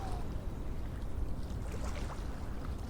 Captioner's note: water sound